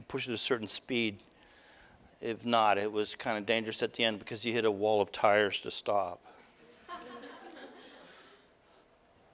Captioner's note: audience: Laughter